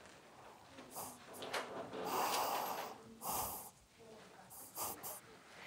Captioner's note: group breathing heavily